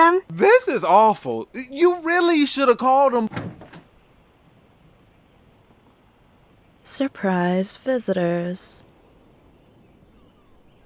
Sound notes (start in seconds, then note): 2.0 door opens